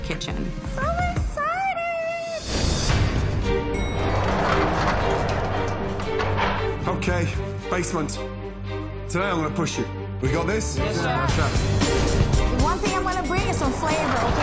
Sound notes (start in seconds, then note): 3.7 ding